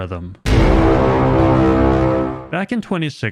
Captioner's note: dramatic horn sound effect